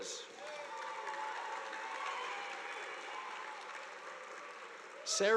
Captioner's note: audience applauding